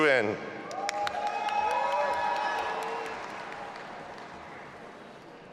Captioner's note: audience applauding and cheering